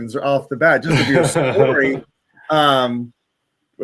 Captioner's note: laughing